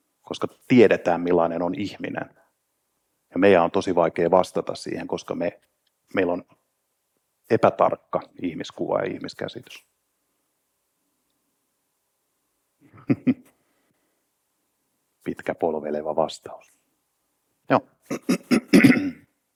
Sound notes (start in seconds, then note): 12.9 chuckles